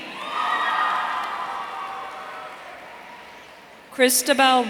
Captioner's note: audience cheering